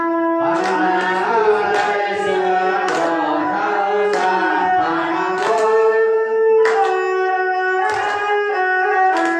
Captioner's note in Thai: ปรบมือ